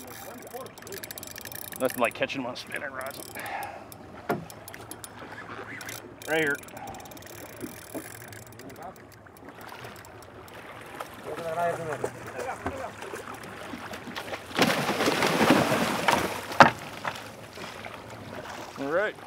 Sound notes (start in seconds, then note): 0.0 background chatter; 8.8 reel cranking; 11.7 background chatter; 14.8 fish splashing